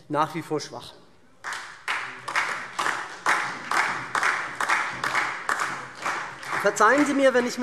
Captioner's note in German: Beifall SPD und vereinzelt Freie Demokraten, DIE LINKE